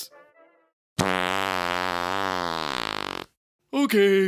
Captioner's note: sound of long, loud fart